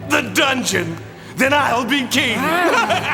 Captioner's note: cackles